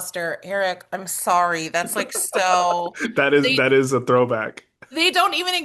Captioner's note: laughs